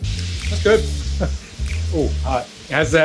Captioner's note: laughs